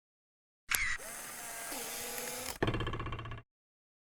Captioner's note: electronics whir